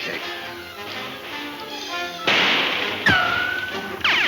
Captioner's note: guns firing